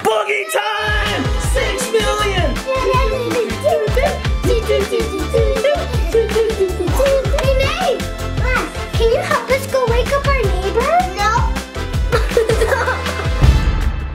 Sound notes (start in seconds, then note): 2.8 making music noises together; 11.8 laughing